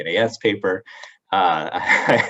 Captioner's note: chuckles